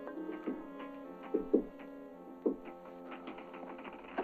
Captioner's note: knocking on door